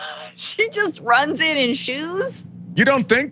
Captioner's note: laugh